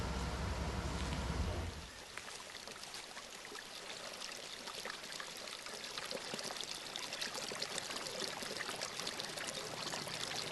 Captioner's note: water flowing